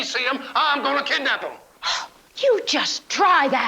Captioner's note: gasps